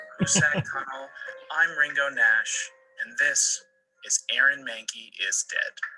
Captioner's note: laughter